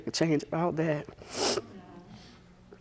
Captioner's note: sniffles